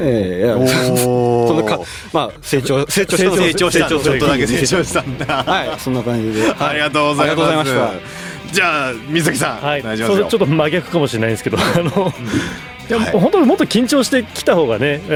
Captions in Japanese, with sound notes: ええ、 その、ま、成長、成長した、ちょっとだけ成長したんだ。 はい。そんな感じで。 ありがとうございまし、 ありがとうございました。 じゃあみさんお願いします。 はい。それちょっと真逆かもしれないんですけど、あの本当もっと緊張してきた方がね、やっぱビシって縛るしばってなるかもしんないですけど普通になんかこう小野さんと雑談しにきたい。それいいのかな?でも好きトークが久々にちょっと僕らあのオープニングってだいぶ前に納品してばらくやっぱ現場の中の徐々熱があるかって言ったら正直もう別なもの取り組んでたりして [笑い]